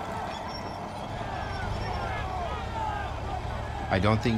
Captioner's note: soldiers yelling